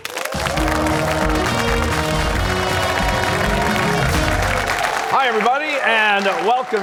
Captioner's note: cheers and applause